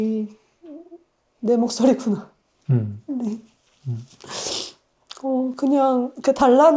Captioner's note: laughs